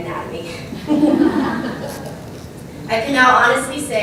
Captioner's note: laugh